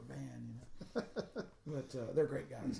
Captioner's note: laughing